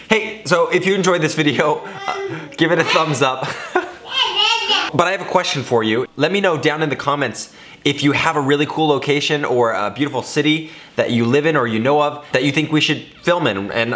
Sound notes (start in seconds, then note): 3.3 laughter; 4.0 child playing loudly